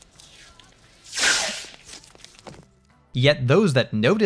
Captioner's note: duct tape unspooling